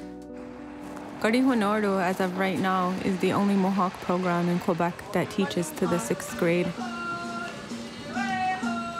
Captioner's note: speaking native language